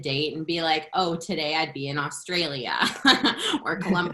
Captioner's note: laughter